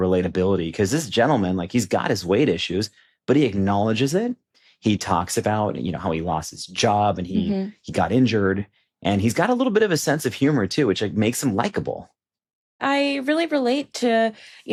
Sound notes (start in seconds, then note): none